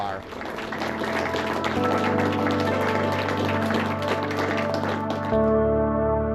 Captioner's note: clapping, music